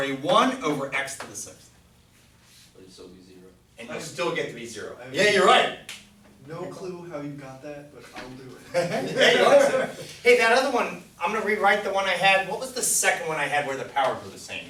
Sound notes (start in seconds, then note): 7.2 voiceover; 8.7 class laughs